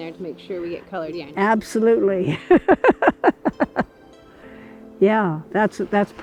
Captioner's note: laughing